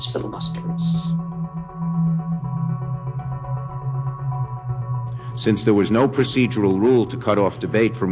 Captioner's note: soundbite of archived recording